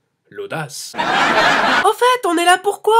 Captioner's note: laughs